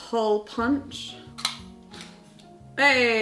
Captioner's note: hole punch clicking